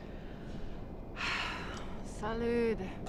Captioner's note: sigh